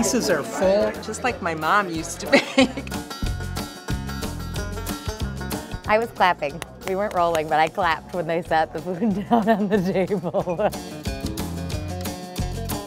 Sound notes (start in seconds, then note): 1.9 upbeat music; 2.2 chuckling; 9.1 laughing; 10.1 upbeat music